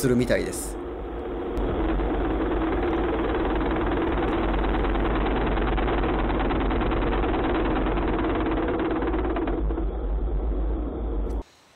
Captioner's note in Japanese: 振動音